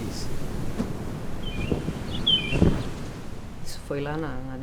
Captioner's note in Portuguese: som do pássaro, som do mar